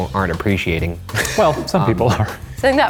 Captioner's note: laughing